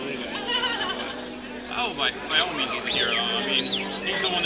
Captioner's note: woman laughs